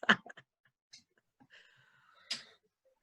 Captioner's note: laughs